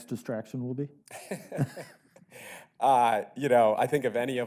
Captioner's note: both laughing